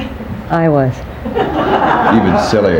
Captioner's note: people laughing